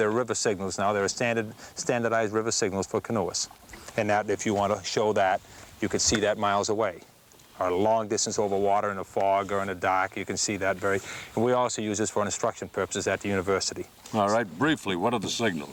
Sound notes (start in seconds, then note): none